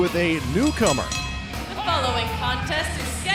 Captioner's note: bell ringing